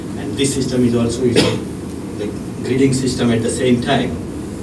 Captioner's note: coughing